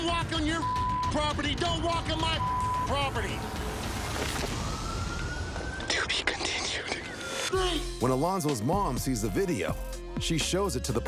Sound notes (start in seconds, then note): 6.9 whispers